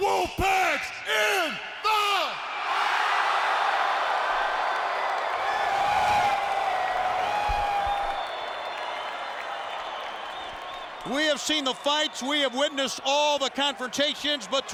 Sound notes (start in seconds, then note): 2.2 audience cheering